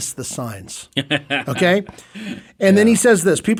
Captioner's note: laughing